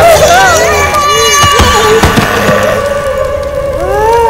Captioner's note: Thuds on the floor